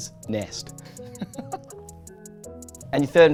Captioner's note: laughs